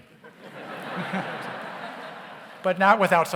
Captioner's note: audience laughs